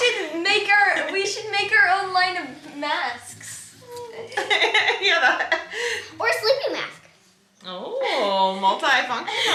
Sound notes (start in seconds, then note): 4.5 everyone laughs